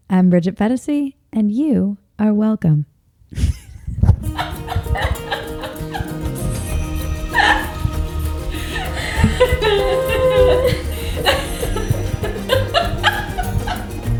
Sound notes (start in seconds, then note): 3.3 laughs; 6.3 upbeat music